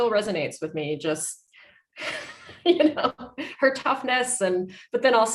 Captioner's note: laughing